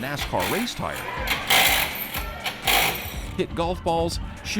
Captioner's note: wrench whirring